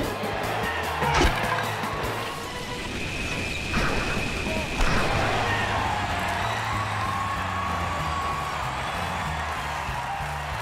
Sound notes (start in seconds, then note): 0.0 cheers and applause; 6.1 cheers and applause